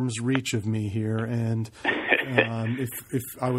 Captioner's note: laughs